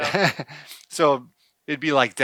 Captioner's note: chuckles